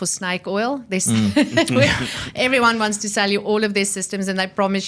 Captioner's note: laughs